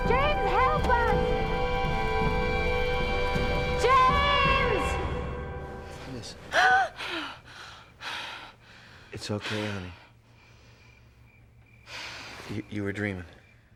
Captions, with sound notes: James, help us. (dramatic orchestral music) James! - What is it? (Lisa gasping) It's okay, honey. You were dreaming.